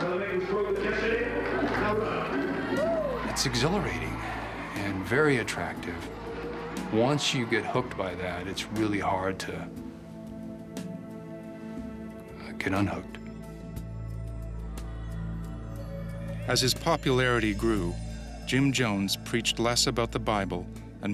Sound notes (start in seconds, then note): 2.4 crowd cheers; 16.7 voiceover